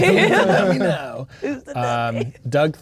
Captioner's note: laughing